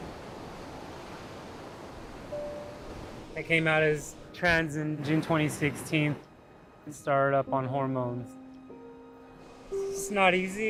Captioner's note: waves crashing